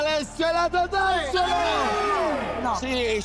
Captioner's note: all exulting